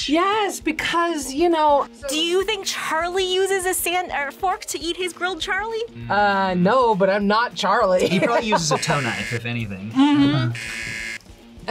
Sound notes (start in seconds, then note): 8.0 laughs; 10.4 buzzer